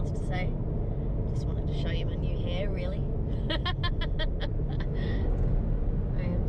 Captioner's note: laughs